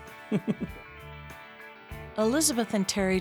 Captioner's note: laughter